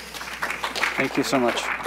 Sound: applause

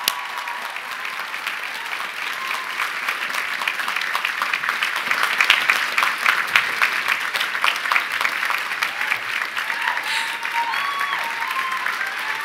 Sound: applause

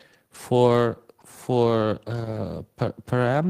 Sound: hums

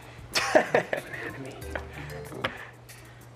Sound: whispering

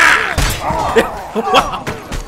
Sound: laughs

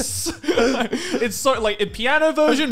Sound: laughing

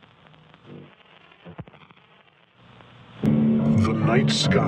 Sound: static crackles; dramatic piano

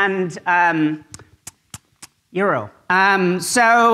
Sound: lip smacking

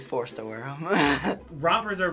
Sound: laughing

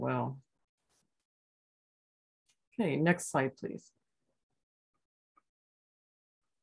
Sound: brief silence

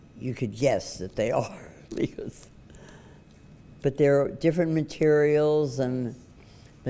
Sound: laughs

